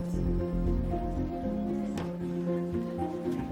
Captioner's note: indistinct chatter